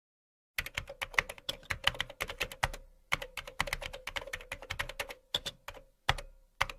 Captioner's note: keyboard sound